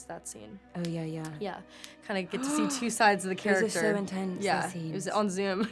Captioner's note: gasp